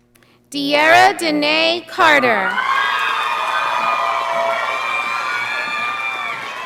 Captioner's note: audience applauding